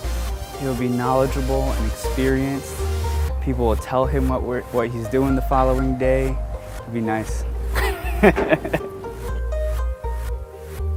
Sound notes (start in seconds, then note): 7.6 laughs